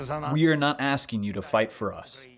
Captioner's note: through translator